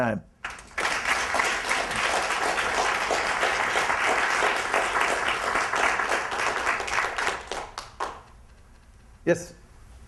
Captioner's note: applause